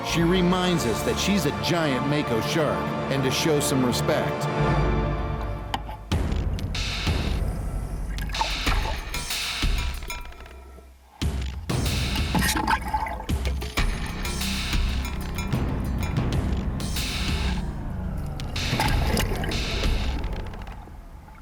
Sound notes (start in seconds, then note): 5.3 suspenseful music begins; 5.7 splashes; 18.9 splashes